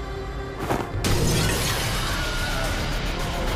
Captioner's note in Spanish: Estruendo